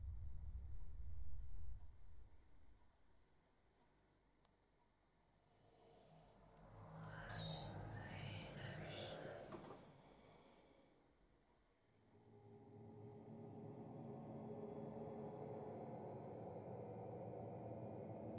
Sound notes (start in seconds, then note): 7.9 voice whispers faintly; 12.0 suspenseful music